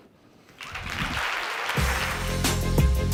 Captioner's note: applause; upbeat music